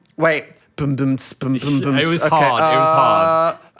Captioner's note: mouth beat